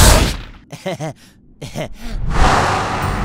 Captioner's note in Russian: нервный смех